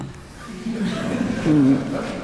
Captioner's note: members chuckle